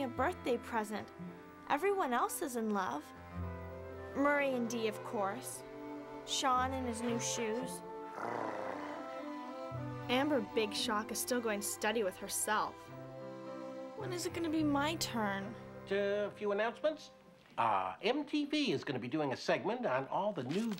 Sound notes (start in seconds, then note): 8.0 purrs